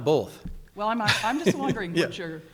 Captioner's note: laughs